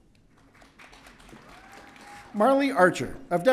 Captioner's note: audience cheering